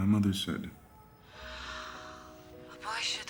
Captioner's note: Nina sighs